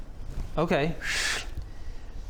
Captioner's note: shhhhh